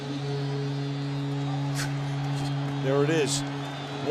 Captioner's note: horn blowing